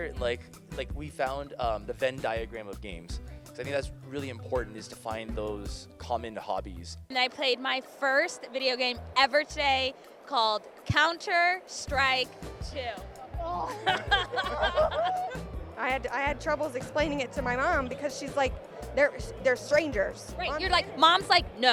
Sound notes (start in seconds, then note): 13.6 laughs